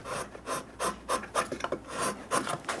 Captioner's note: sounds of sawing